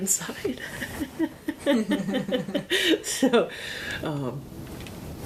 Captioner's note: interviewer laughing